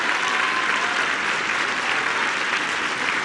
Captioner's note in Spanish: aplausos